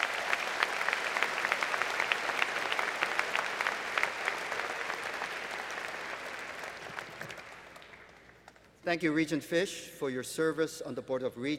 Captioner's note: applause